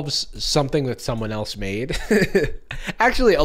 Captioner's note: laughs